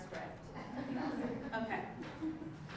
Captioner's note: laugh